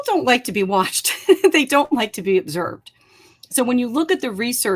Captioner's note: laughter